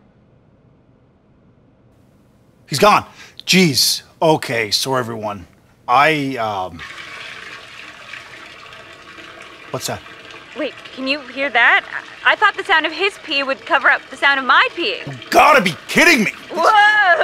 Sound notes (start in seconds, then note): 7.0 sound of peeing